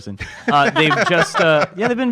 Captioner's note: laughs